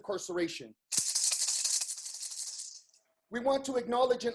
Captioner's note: rattles